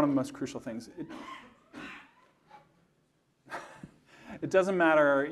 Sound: audience coughing

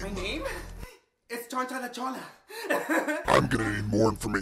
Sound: laughs

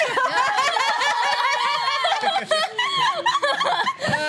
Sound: laughing and cheering

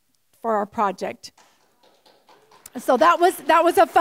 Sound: applause

